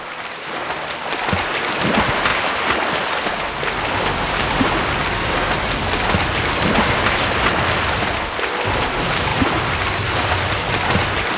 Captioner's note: water sounds